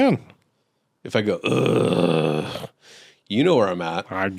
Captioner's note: growling noise